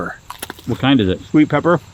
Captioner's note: pepper crunches